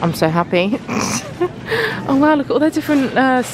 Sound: laughing

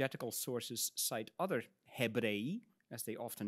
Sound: speaks in Latin

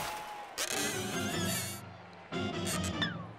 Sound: crash; squeaking

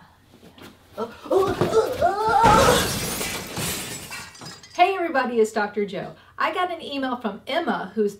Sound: crashing noise

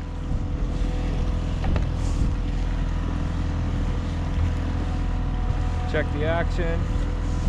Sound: boat engine idling

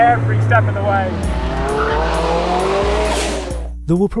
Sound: car roars

